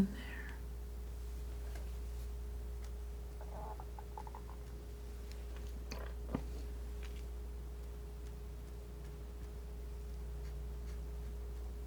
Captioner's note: scratching